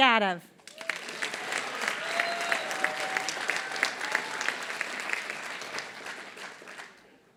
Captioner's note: applause